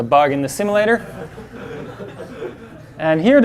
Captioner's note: class laughs